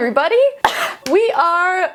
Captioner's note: coughing